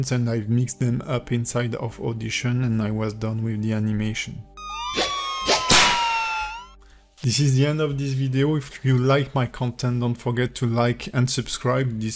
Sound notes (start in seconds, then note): 4.6 sirens wailing; 5.4 whip whooshing